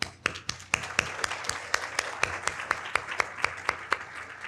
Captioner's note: audience applauding